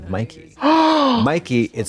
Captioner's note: Trixie gasps